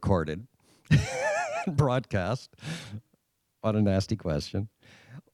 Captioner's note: laughing